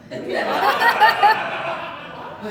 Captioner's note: audience Laughing